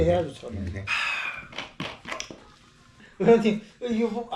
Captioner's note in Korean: 한숨